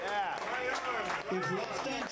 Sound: applause

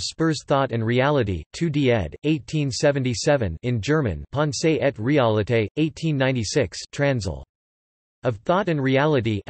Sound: in German

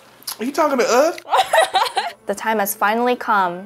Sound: laughs

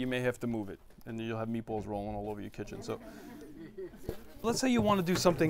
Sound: laughter

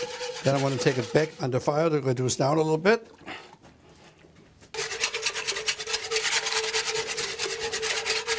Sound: whisking noise

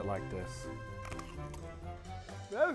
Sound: crunch

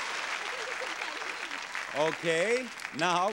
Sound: audience applauding; muttering

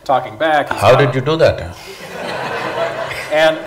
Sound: laughter

